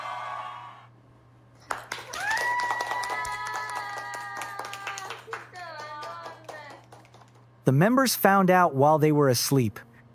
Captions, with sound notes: [CLAPPING] The members found out while they were asleep.